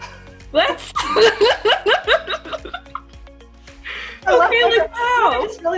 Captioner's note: laughs